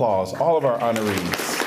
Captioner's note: applause